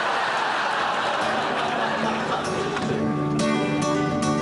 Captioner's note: audience laughs